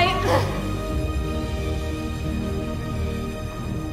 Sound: grunting

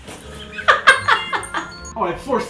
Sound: laughs

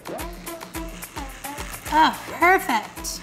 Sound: clippers vibrating; electronic music

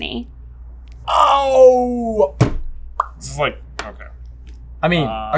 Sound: lip pop

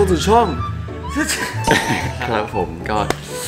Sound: coughs

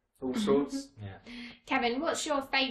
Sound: laughing

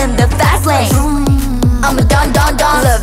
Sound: vroom

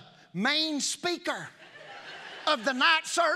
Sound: congregation laughing

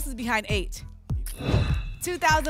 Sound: whoosh

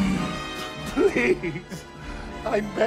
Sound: sobbing

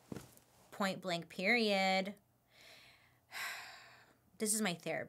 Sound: sighs

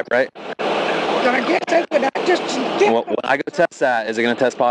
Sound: speaks faintly

